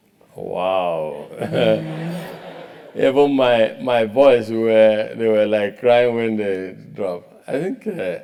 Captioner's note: laugh